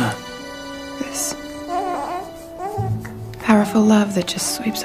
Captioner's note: cooing